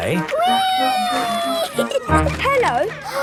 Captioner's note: giggling